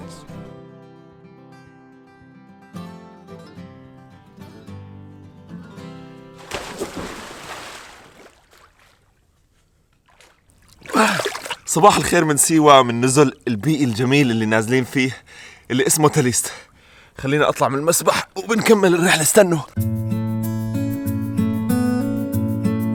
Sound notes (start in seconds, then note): 6.4 splash